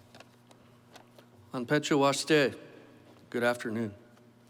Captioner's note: foreign Language